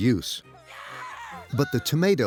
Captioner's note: yelling